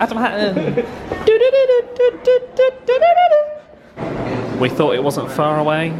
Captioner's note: vocalises